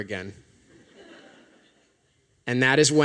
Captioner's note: laughter